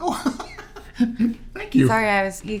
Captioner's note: laughing